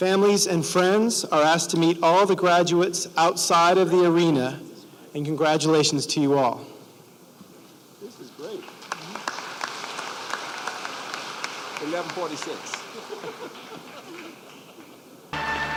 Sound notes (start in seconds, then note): 8.4 applause; 12.8 laughter